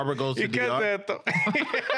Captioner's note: laughing